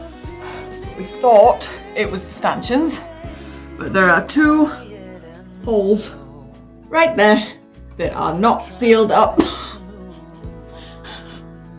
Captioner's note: laughs